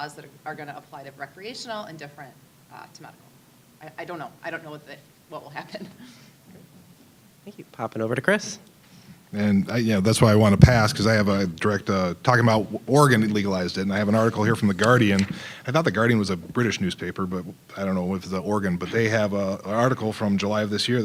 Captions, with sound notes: that are gonna apply to recreational and different to medical. I don't know-- I don't know what will happen. (chuckling) >> Thank you-- poppin' over to Chris. >> And yeah, that's why I want to pass, because I have a direct-- talking about Oregon legalized it, and I have an article here from "The Guardian." I thought "The Guardian" was a British newspaper, but I don't know if it's an Oregon-- but they have an article from July of this year